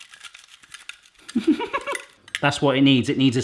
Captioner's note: he giggles